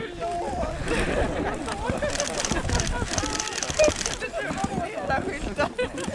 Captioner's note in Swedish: Skratt och kameraklick fortsätter